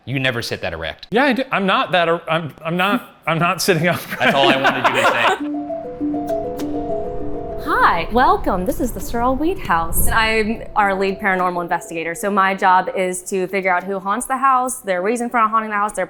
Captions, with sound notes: - You never sit that erect. - Yeah, I do. I'm not that- I'm not sitting up. (all chuckle) - That's all I wanted you to say. - Hi, welcome. This is the Sorrel-Weed House and I am our lead paranormal investigator. So my job is to figure out who haunts the house, their reason for haunting the house,